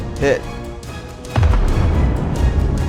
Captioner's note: boom